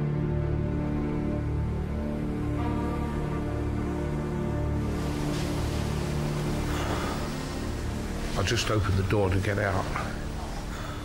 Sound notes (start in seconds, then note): 3.8 water gushing